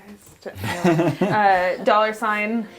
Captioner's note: laughter